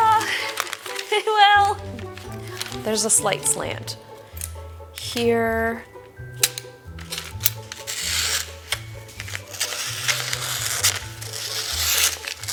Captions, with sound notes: Ah, well. There's a slight slant. Here. (scissors slices paper)